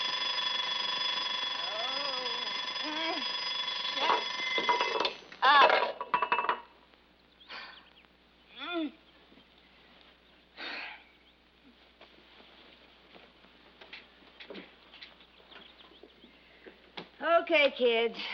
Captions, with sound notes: OH... SHUT...UP. [ SIGHS ] [ GROANS ] OKAY, KIDS.